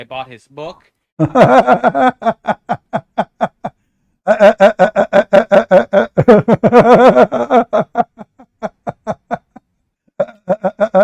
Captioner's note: Ketawa